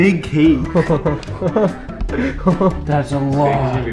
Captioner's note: chuckles